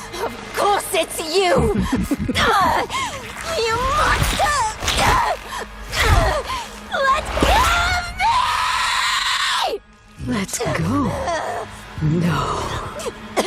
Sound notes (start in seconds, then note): 2.2 sinister laughter; 5.0 grunting; 10.3 evil distorted voice